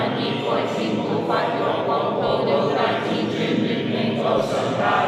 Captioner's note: chanting